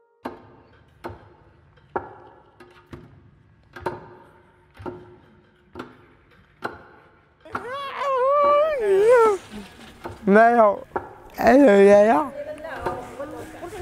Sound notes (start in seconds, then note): 0.2 rhythmic knocking; 7.4 excited vocalising